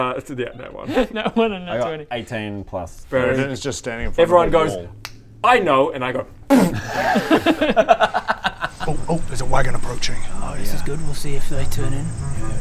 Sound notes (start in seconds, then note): 5.0 snap; 6.5 zero sympathy giggles